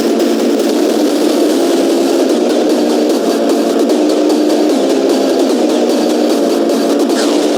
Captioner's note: beatboxing